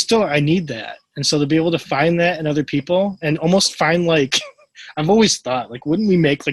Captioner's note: laughs